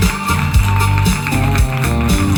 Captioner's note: applause and crowd